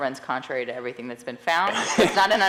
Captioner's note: laughing